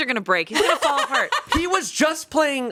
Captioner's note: laughing